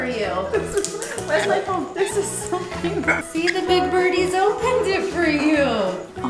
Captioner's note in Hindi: हँसी